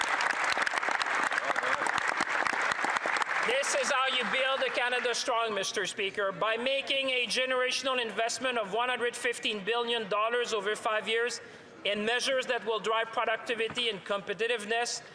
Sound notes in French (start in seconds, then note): 3.2 applaudissements